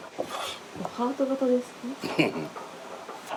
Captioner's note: laughs